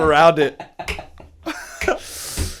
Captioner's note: laughter